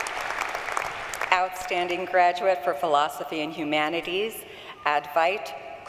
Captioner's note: applause